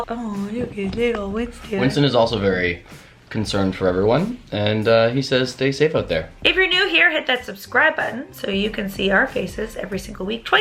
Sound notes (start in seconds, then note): none